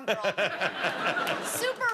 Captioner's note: laughter